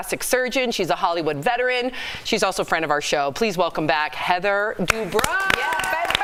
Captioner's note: applause